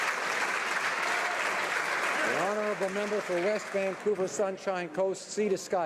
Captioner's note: applause